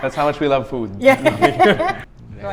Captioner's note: laughs